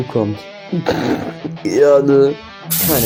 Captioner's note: laughs